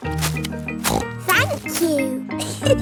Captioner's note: snorts; giggles